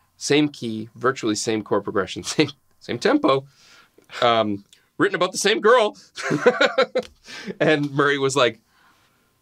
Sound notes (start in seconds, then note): 6.2 laughing